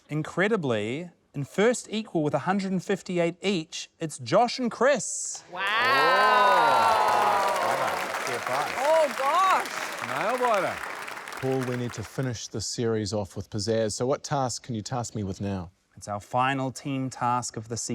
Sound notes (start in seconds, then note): 6.8 applause